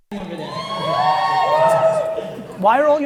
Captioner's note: audience cheering